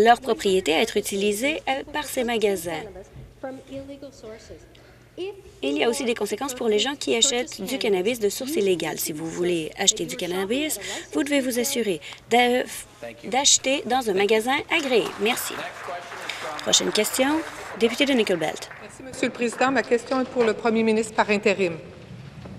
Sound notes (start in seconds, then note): 17.3 applause